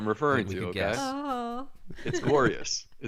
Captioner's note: laughing